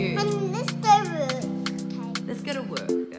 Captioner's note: boy babbles